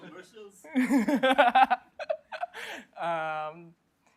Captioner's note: laughter